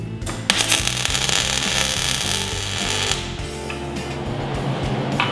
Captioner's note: welding noise